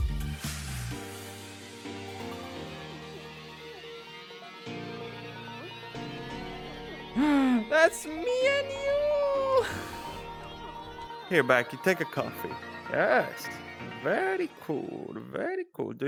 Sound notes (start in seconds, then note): 6.2 gasps